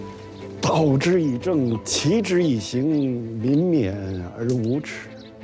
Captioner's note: hablan un idioma extranjero